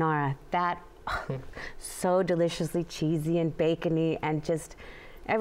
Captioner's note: sighs